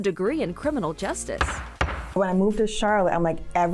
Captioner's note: gavel thudding